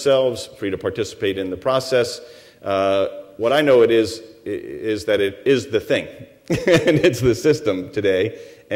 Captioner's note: chuckles